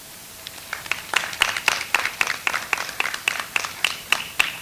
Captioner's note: audience applauds